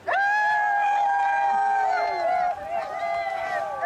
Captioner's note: cheering